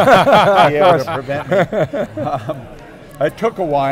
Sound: laughing

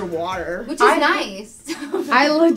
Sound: laughs

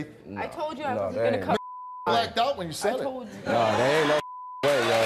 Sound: beep; audience applauds

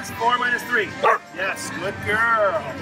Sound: dog barks once

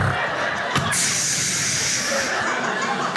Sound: hisses; crowd laughs

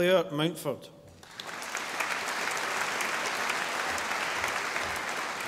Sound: audience applauding

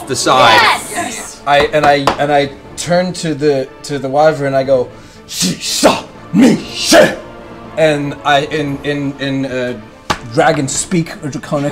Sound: speaking Draconic

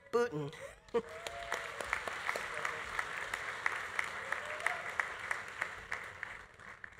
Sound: audience applauding; audience cheering

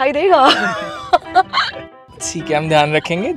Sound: laughing

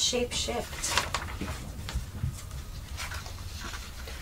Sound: paper rustling

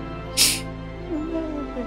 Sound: sniffles

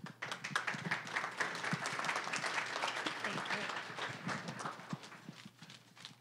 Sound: applause

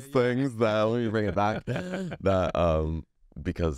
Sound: laughs

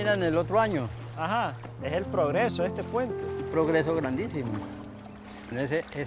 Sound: speaking in foreign language

